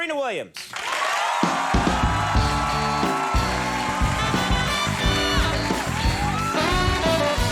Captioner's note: audience cheering, band playing funky music